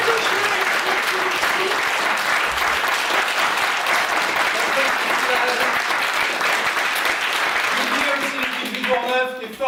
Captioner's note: appplause